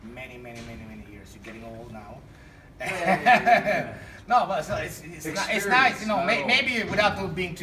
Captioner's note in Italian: ridendo